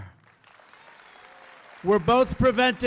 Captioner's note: applause